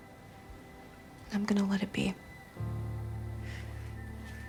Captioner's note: none